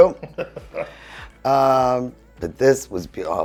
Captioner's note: laughing